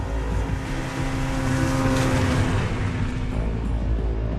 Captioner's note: motor rumbling